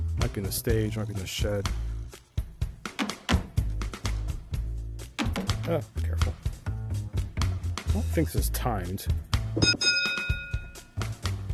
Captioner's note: ding*ding